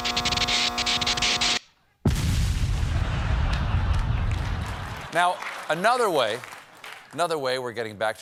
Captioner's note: buzzing; explosion